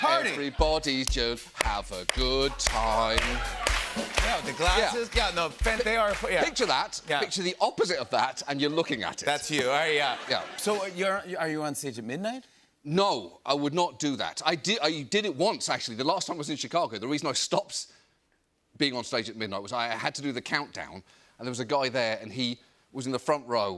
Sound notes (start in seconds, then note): 2.9 rhythmic clapping; 9.8 laughter